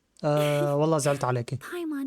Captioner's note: laughs